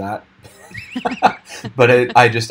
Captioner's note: laughing